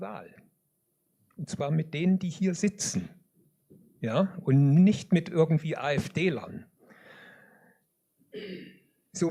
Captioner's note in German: seufzt